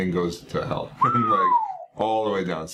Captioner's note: whistles